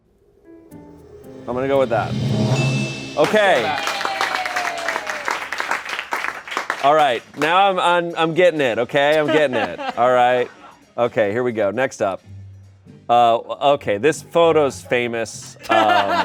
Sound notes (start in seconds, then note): 1.4 bell dings; 3.2 crowd cheers and applauds; 15.5 laughter